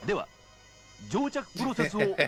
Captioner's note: non-english speech; laughter; non-english speech